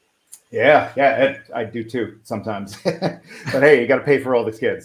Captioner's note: chuckles